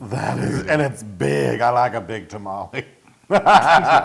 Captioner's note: laugh